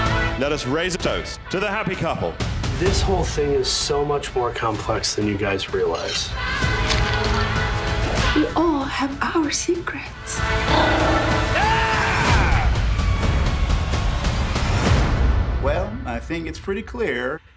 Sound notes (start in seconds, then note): 10.6 growling